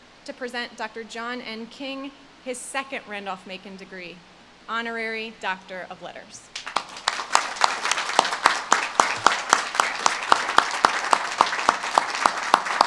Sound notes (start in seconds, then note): 6.5 audience claps